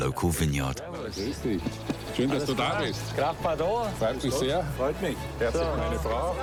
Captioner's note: speaking foreign language